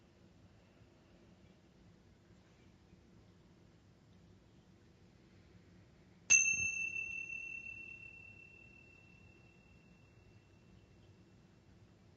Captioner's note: long pause as chimes slowly ring 22 times